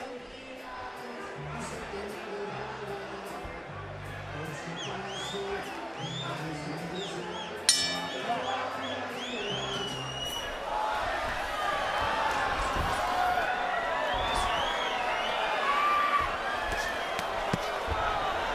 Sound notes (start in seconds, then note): 7.6 bell dings